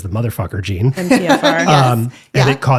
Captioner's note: laughs